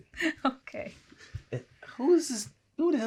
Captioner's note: laughing